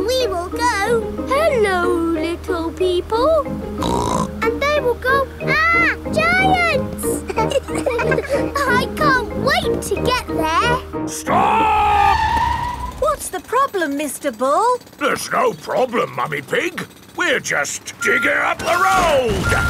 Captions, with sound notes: And we will go, "Hello, little people!" (SNORTS) And they will go, "Arrgh! Giants!" (ALL LAUGHING) I can't wait to get there! -Stop! -(TIRES SCREECHING) What's the problem, Mr. Bull? There's no problem, Mummy Pig. We're just digging up the road!